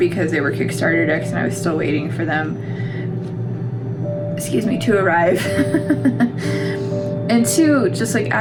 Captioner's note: laugh